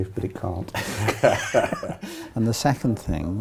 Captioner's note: both laughing